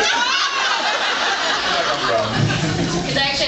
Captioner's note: laughs